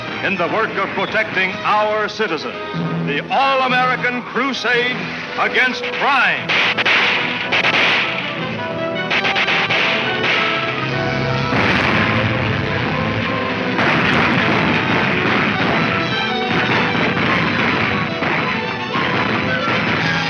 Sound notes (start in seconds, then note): 6.1 guns fire; 8.5 dramatic music